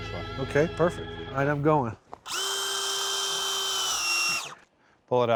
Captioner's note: drilling sound